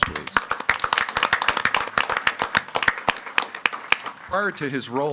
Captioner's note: group clapping